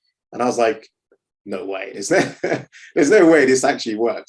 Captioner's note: laughing